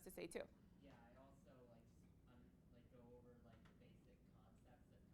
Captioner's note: student speaking quietly